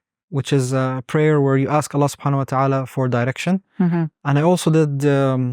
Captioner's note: speaks Arabic; speaks Arabic